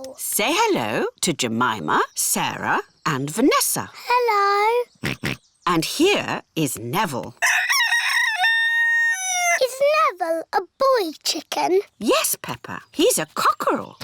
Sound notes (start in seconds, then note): 5.0 george oinks; 7.4 rooster crows